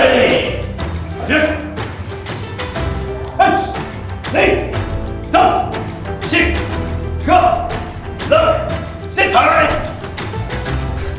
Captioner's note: speaking Japanese